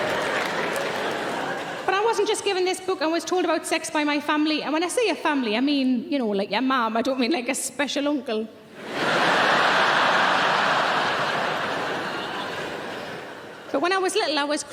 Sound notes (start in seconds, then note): 8.8 audience laughing